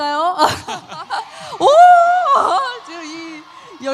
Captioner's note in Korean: 환호